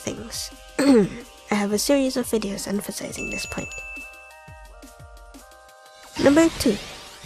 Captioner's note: clears throat